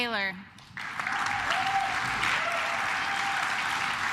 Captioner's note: claps